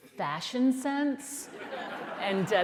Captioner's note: laughter